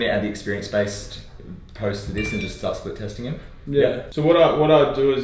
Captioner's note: phone beeps